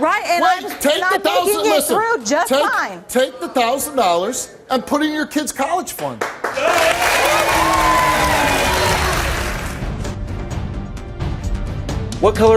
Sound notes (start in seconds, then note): 6.2 audience applauds; 8.7 intense music